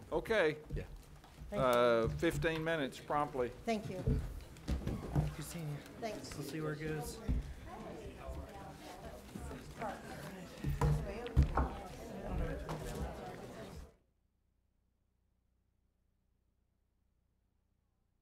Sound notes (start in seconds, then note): 7.9 people chatting